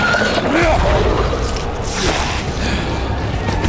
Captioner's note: screeching